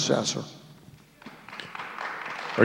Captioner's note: applause